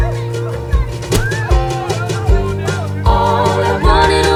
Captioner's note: chattering; squealing